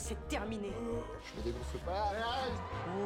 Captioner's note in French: grognement